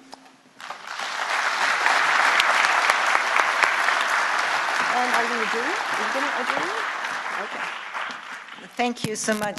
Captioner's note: applause